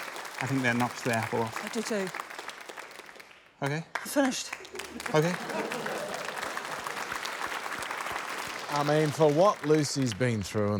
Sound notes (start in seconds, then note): 5.6 applause